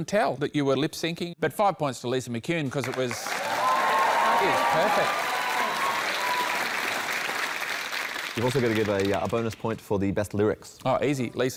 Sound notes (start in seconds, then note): 6.1 cheering, applause